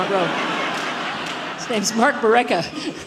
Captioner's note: audience laughs